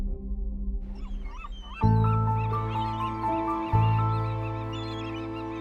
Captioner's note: mysterious music; seagulls calling